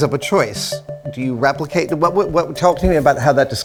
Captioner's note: stammers